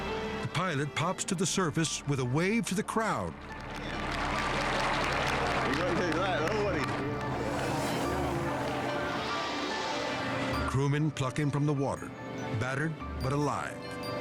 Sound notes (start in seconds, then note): 3.4 crowd applauds